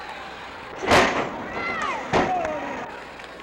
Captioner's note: mat thuds; crowd chattering